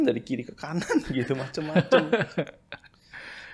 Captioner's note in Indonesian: tertawa